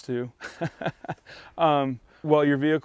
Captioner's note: laughing